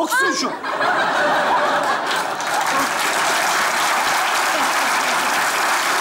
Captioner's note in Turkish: Kahkaha ve alkış sesleri